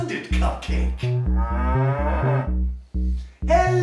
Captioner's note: cow moo